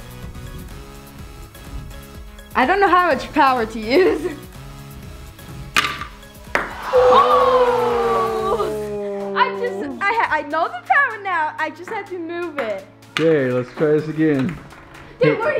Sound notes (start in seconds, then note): 6.5 ball clacks; 6.5 disappointed crowd